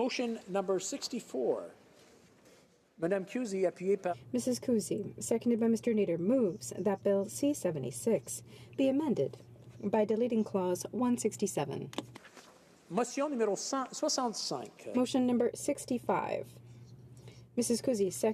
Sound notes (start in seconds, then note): 7.2 speaking French